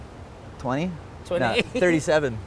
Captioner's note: laughs